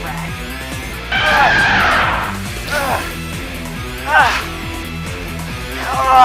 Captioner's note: elephant roar